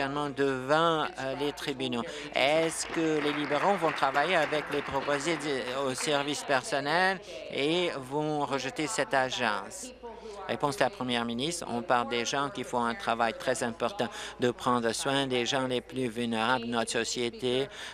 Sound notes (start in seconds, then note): 5.6 applause